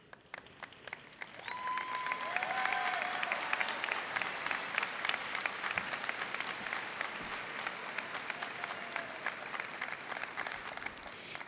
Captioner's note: cheers and applause